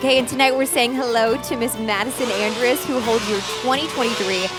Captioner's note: chainsaws buzzing; holiday music